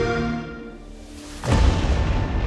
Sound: lightning

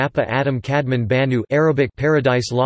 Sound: Arabic

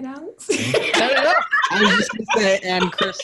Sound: everyone laughing

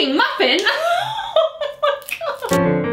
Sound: laughs; piano music

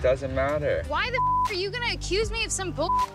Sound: beep; beep

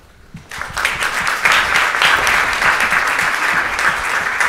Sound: audience applauds

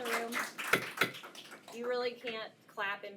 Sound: gavel pounds

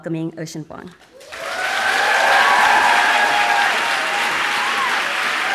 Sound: audience claps and cheers

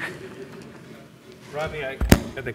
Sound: laughs

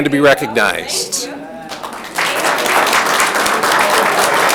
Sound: audience clapping

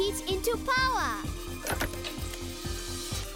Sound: clicking; buzzing

